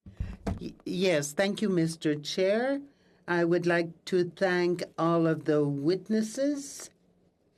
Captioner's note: speaking French